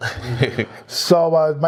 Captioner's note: laugh